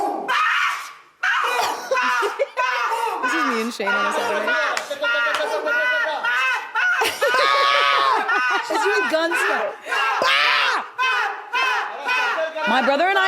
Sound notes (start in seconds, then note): 0.3 person on right screaming; 7.2 screams; 7.8 laughs